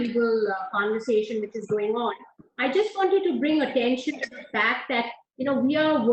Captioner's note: audio disturbance